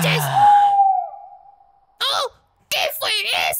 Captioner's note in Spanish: Sonido de búho